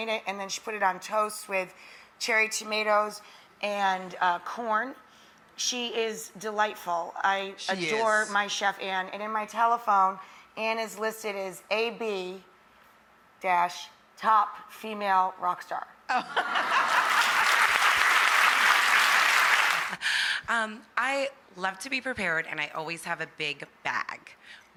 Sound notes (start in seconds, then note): 16.2 audience laughing; 16.7 audience applauding